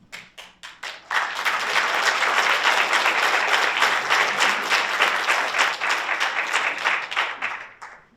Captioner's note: audience applauds